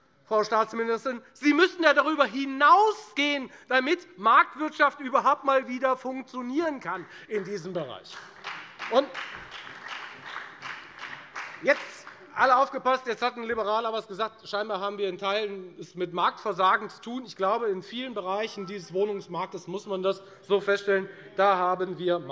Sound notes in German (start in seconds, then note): 8.0 Beifall bei der FDP sowie bei Abgeordneten der SPD und der LINKEN